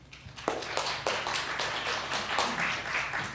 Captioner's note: applause